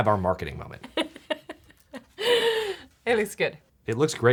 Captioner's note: laughs